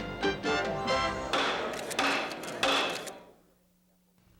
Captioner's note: gavel banging